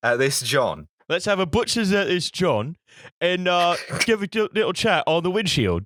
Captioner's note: cockney voice